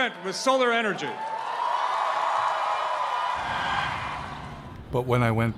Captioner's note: crowd cheering and screaming